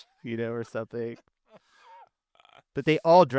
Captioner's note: laughing